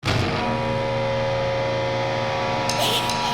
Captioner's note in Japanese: 低周波の振動音